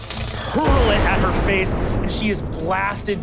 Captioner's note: static electricity booming